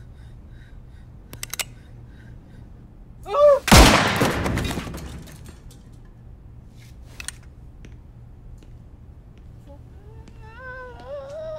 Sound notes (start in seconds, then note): 1.3 gun's hammer pulled back; 3.6 gunshot; 9.7 moaning